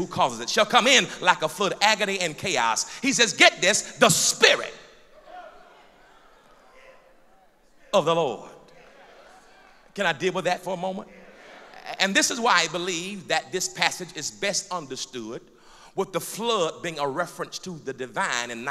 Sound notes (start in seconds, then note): 5.0 loud crowd affirmation; 8.9 applause